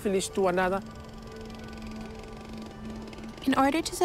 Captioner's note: machinery whirrs